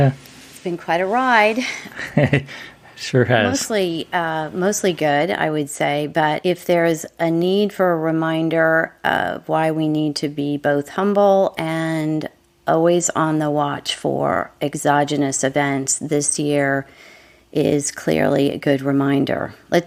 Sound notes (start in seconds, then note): 1.7 laughing